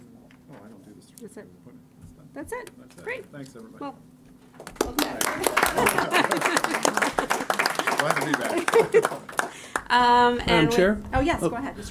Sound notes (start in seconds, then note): 4.6 applause